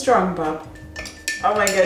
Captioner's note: glass clinking